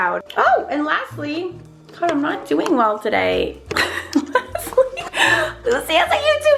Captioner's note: laughs